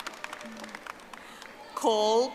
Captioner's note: audience applauding